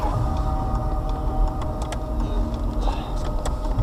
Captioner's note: indicator sounds